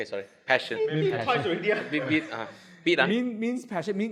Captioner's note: beep beep